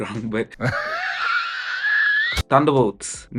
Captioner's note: laughs